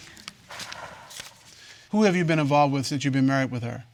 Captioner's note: exhales